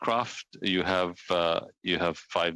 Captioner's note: speaking French